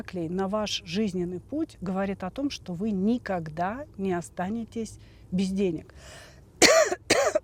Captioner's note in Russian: кашель; откашливается